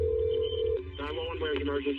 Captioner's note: dial totone ringing